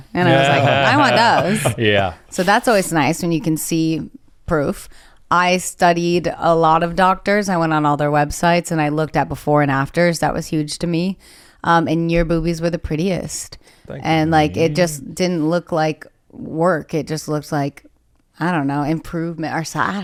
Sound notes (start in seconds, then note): 0.1 laughs